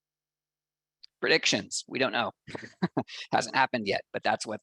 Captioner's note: laughs